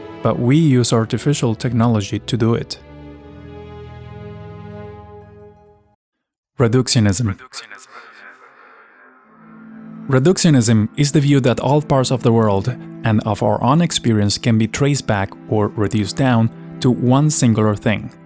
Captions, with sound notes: but we use artificial technology to do it. Reductionism. [Voice echoes] Reductionism is the view that all parts of the world and of our own experience can be traced back or reduced down to one singular thing.